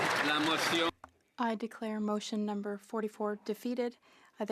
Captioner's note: some Applause